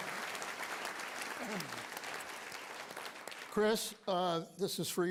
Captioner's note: applause